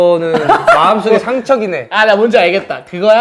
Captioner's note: laughing loudly